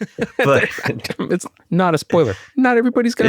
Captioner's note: laughs